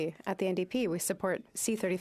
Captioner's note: speaking French